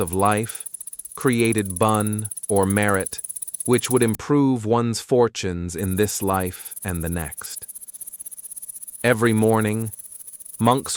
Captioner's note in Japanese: ブン